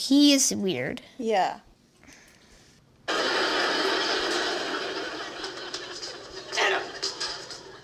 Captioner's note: laugher